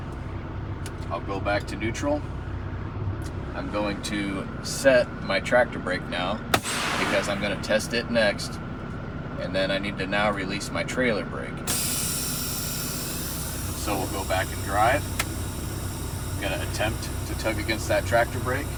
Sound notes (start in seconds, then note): 6.5 air brake engaging; 11.6 air brake disengaging; 15.0 gear clicking